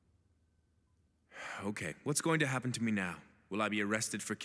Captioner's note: sighs